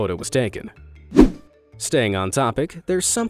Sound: image whooshing

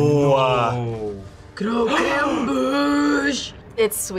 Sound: gasps

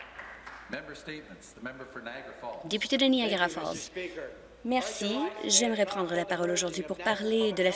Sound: some Applause

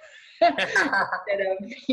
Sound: laughter

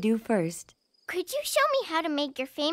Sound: playful chatter

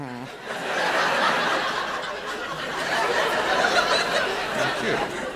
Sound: laughter

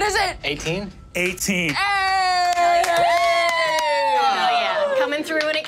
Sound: players cheering

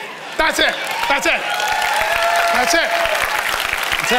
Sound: congregation cheering and applauding

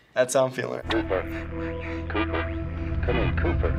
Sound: staticky voice

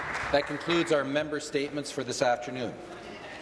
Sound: applause

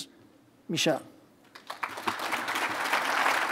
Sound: applause

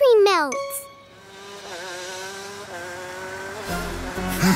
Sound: zooms; honks

